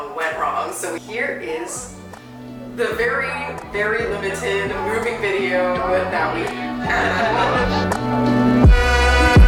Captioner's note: both laugh